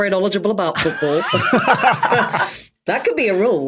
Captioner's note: group laughing